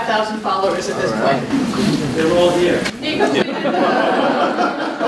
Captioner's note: laughter